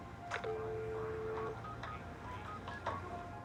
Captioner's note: dialing